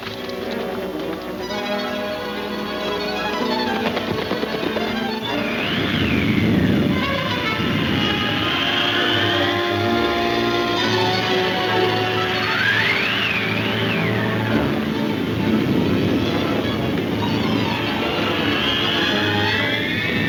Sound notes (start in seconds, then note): 0.2 dramatic music; 2.9 hoof beats thudding; 4.8 wind whooshing; 6.2 suspenseful music; 7.9 wind blowing